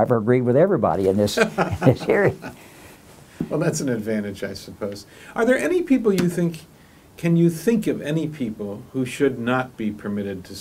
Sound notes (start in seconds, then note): 1.3 laughs